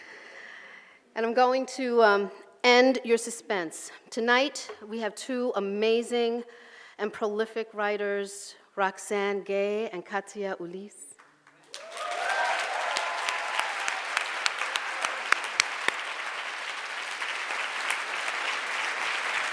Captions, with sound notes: And I'm going to end your suspense. Tonight, we have two amazing and prolific writers, Roxane Gay and Katia Ulysse (audience cheers)